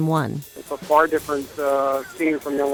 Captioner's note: crowd celebration